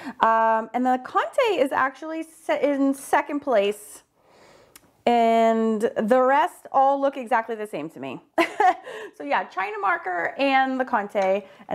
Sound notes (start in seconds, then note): 8.5 laughs